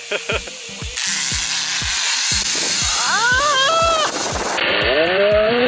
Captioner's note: laughter; shreaking like a little girl on the zip line